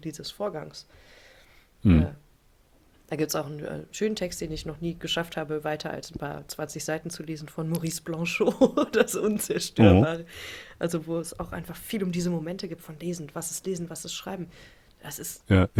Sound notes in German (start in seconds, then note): 8.4 gelächter